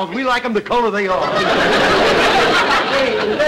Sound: audience laughter

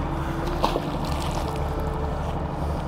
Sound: magnet splashing; dramatic music

